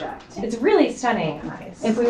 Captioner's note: woman's Voice